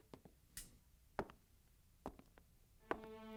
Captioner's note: switch clicks; tense music